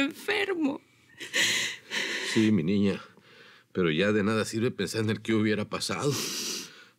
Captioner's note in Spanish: Sollozos